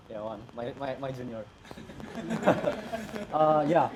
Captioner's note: laugh